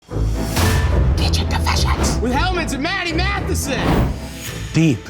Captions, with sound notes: (dramatic music) (title thuds powerfully) Kitchen Confessions with Hellmann's and Matty Matheson.